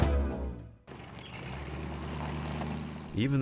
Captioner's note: engine accelerating